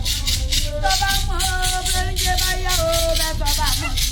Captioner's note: women chanting